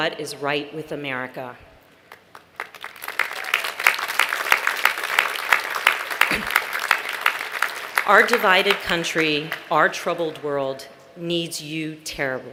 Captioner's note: applause